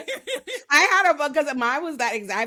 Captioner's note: laughing